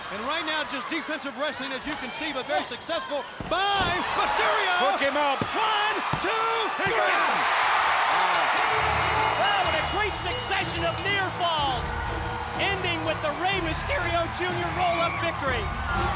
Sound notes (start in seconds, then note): 8.0 bell ringing; 8.5 crowd cheering; 15.8 crowd cheering; 15.8 upbeat music